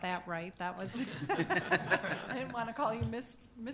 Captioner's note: people laughing